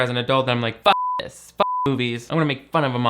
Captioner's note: beep